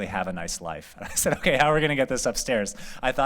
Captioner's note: laughter